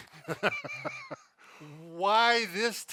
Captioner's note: laughs